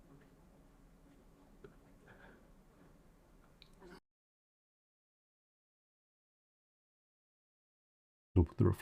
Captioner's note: silence